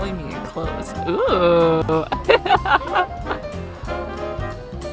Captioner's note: laughs